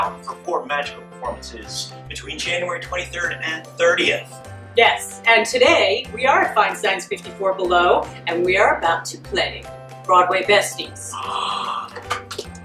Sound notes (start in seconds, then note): 11.1 gasps